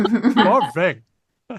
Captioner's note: laughs